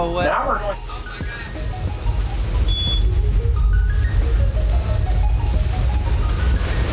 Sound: electronic music continues; water splashes

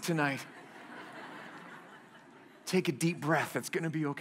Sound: laughter

